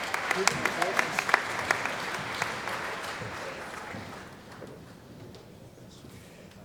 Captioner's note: applause